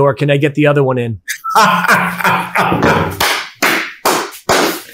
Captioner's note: laughing